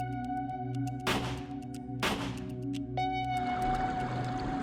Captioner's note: gun fires